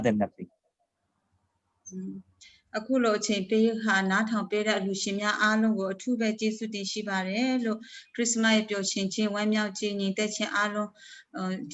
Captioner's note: speaking in another language/ Interpretation